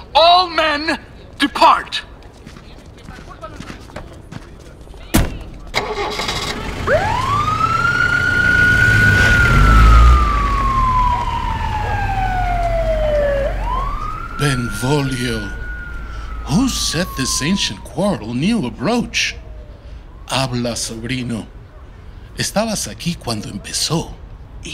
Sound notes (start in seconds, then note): 5.1 car door closing; 5.7 car starting; 6.8 siren wailing; 9.5 vehicle departing; 11.7 dog barking